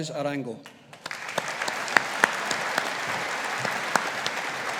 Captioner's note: audience applauding